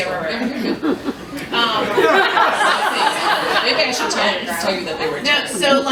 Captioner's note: laughter